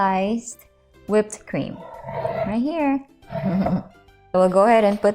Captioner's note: bowl slid on board; chuckles